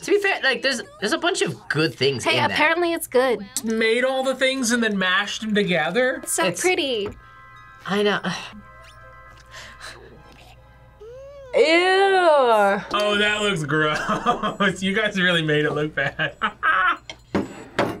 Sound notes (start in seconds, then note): 11.0 mom gags; 13.9 laughs